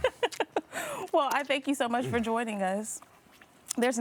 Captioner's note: laughing